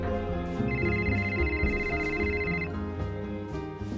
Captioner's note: cell phone ringing